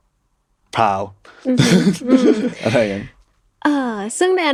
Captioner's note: laughs